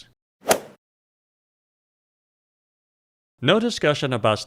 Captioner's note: golf swing sound effect